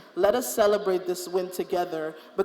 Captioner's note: none